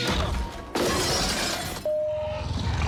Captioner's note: window crashing sounds; raptor screams